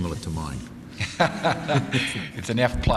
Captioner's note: laugh